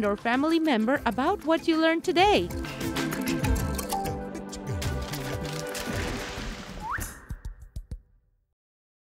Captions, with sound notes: or family member about what you learned today. (cheerful upbeat music) (mouth whistles)